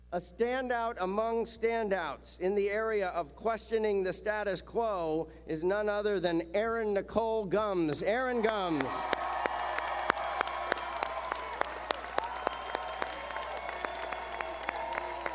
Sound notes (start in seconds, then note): 8.4 cheering